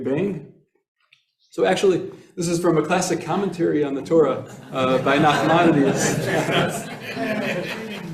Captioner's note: laughter